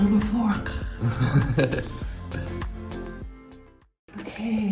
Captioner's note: laughs